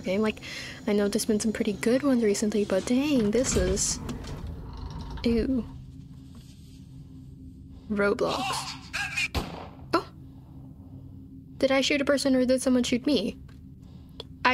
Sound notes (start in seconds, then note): 9.3 gun shot